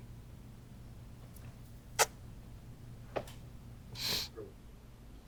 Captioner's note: Pike Sniffling; Pike Blowing Kiss